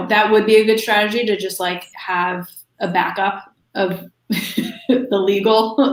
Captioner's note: laughs